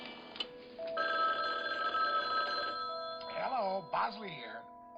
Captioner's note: phone ringing